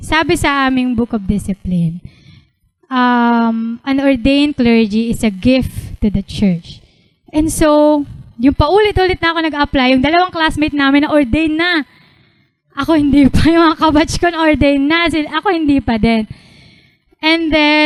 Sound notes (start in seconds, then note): none